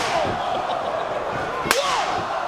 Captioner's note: spectators exclaiming; chuckling